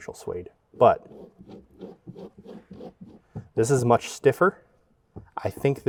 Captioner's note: scratching suede